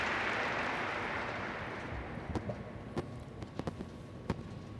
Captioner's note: applause